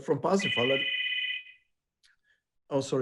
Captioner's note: phone ringing